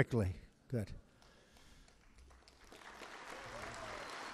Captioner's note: applause